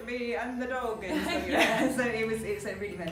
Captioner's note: they laugh